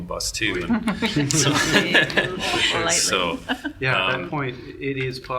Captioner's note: group laughs